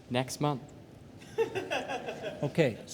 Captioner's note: woman laughing